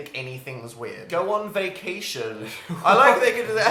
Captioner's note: laughing